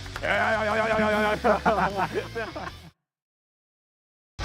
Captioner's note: people laughing